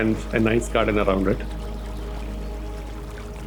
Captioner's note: water gurgling in the pool